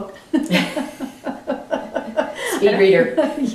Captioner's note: all laugh